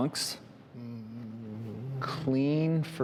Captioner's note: humming